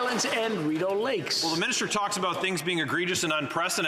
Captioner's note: applause